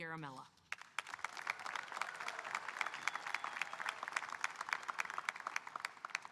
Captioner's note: audience applauding and cheering